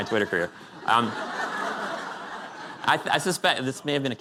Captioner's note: laughter